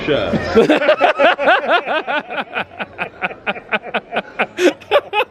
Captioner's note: all laughing